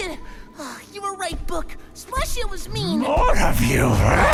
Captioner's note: stomps of Not-Splashia getting closer